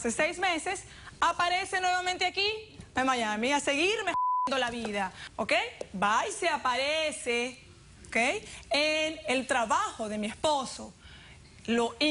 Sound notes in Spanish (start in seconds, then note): 4.1 Bip